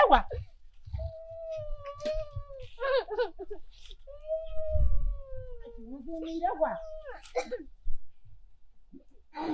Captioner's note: groaning